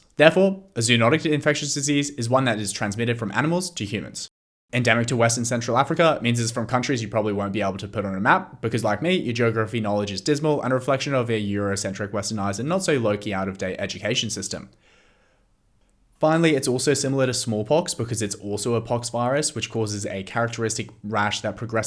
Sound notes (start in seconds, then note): 14.8 dramatic inhale for being so woke